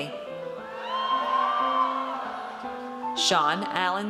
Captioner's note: audience cheers